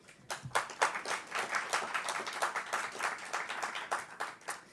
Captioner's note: audience applauding